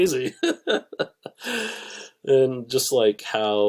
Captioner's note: laughs